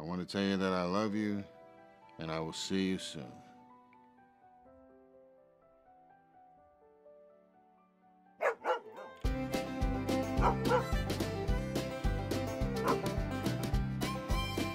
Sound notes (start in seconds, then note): 4.1 gentle music; 8.4 Willamina barking; 8.5 upbeat music; 12.8 Willamina barking; 14.5 upbeat music